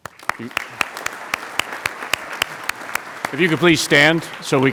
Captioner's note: applauding